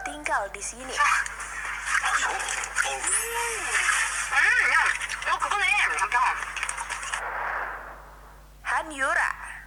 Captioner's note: laughs